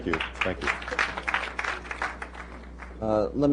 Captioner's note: applause